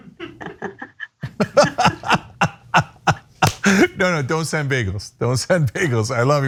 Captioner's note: laugh